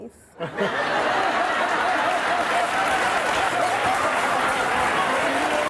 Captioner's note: audience applauding, laughing